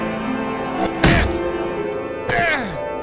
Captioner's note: Gaylord_Steambath grunts